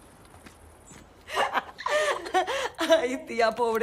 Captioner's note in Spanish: Risas